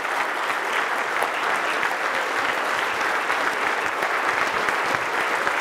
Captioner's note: audience continues applauding